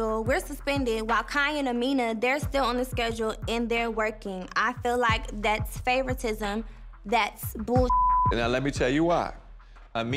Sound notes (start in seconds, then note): 7.8 beep